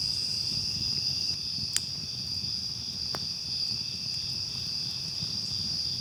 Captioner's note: crickets continue chirping